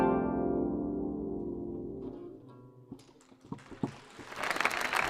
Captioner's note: audience applauding and cheering